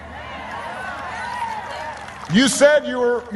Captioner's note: applause